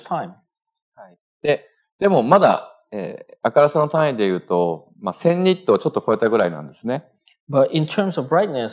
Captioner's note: speaking japanese